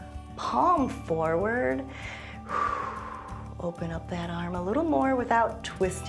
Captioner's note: exhales